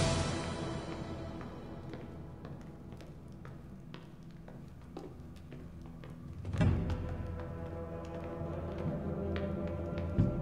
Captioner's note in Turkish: Ayak Sesleri